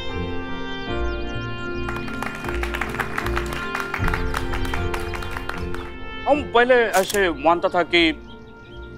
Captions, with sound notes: [clapping] I used to believe that